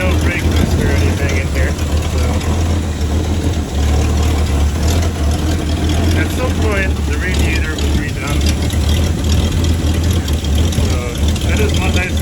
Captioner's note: engine Noise